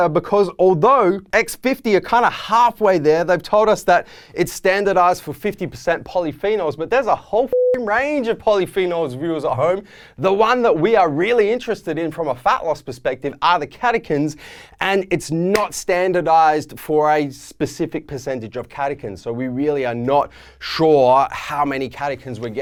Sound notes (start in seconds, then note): 7.5 beep